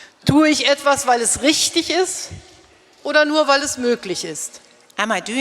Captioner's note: speaking in German